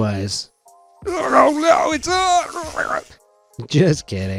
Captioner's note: in warbling voice